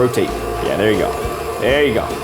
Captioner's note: mixer whirling